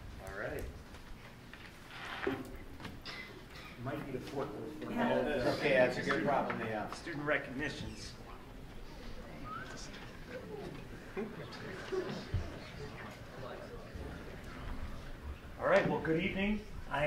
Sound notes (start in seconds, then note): 8.4 crowd murmuring